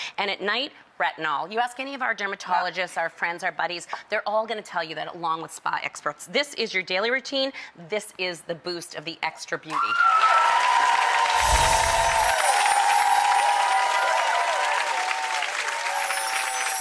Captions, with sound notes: And at night retinal. You ask any of our dermatologist, our friends, our buddies, they're all gonna tell you that along with spa experts. This is your daily routine, this is the boost of the extra beauty. (audience shouting and applause)